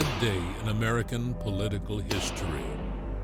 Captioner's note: none